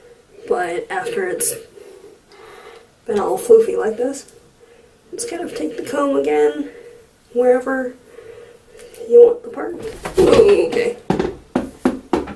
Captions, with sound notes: But, after it's been all floofy like this, just kind of take the comb, again, wherever you need your part to-- *clatter sounds* Oookay....